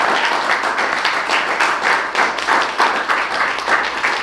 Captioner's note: so much applause; all the applause; standing ovation levels of applause